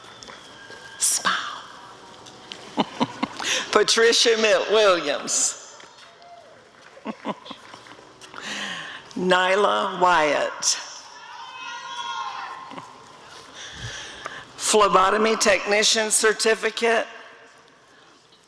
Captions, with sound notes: Smile! [chuckling] Patricia Williams [applause] Nyla Wyatt [audience cheering] Phlebotomy Technician Certificate—